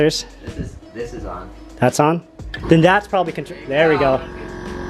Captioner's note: compressors turn on